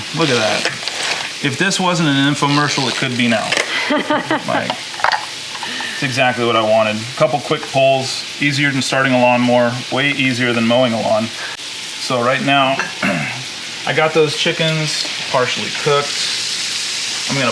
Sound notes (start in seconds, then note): 3.6 laughing